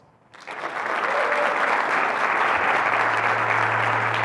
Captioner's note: audience clapping